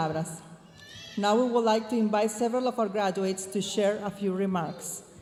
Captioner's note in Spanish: hablando en inglés